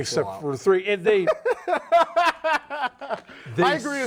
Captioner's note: laughing